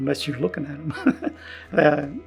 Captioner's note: laughing